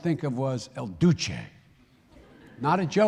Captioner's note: laughter